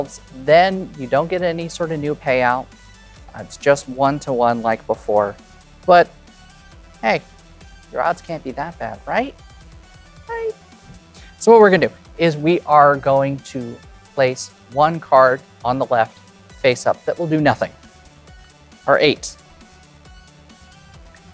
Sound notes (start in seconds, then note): 11.3 normal pitch